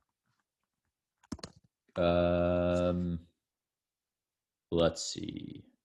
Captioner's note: keyboard typing